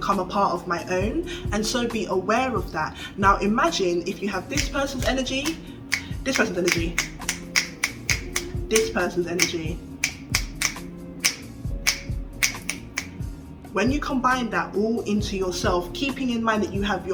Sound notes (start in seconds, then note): 6.0 clicks steadily; 9.2 clicks rapidly; 11.8 clicks rhythmically; 12.4 clicks slowly